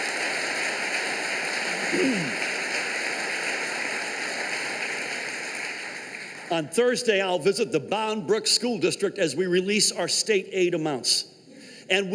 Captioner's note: applause